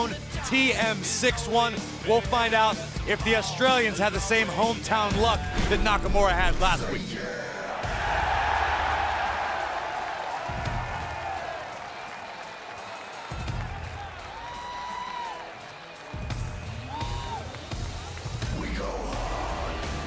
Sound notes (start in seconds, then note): 7.6 cheers & applause